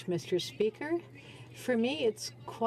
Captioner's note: speaking French